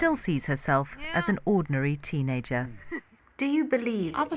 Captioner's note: Malala chuckles